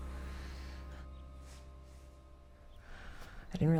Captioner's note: Anne exhales